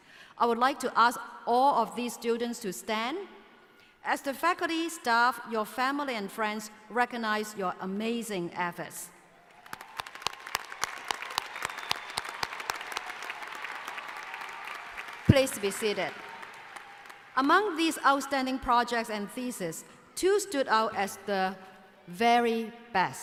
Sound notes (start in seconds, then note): 9.4 applause